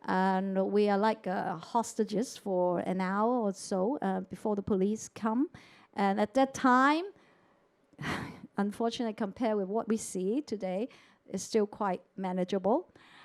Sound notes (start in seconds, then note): 7.7 sighs